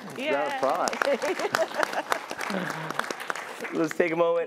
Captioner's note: applause